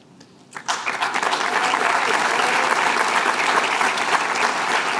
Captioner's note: applause